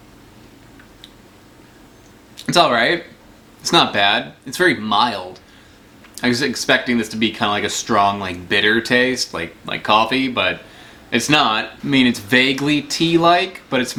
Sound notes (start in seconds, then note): none